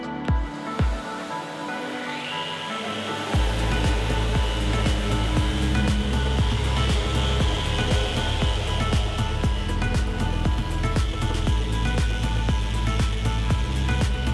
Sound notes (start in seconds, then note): 2.3 sanding machine whirring